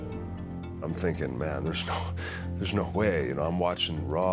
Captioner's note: laugh